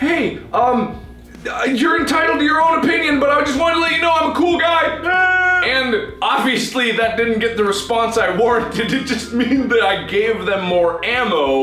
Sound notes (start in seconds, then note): 0.1 high pitched voice; 4.9 sobbing; 8.4 laughing